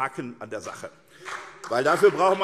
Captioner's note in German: Beifall SPD und BÜNDNIS 90/DIE GRÜNEN